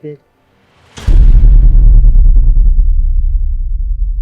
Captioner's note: tense echoing